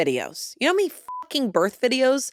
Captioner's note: beep